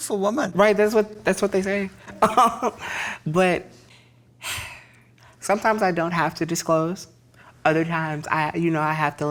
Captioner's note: sighs